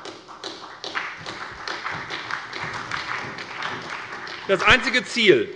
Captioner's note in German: Beifall bei der SPD und bei der LINKEN